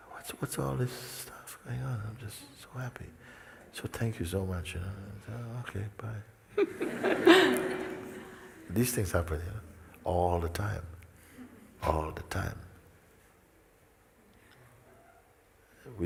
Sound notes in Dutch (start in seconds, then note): 6.5 gelach